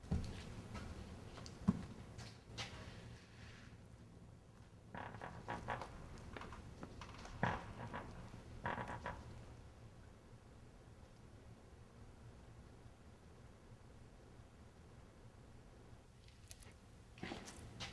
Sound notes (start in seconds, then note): 5.3 door creaks